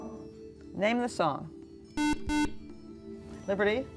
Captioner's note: beeping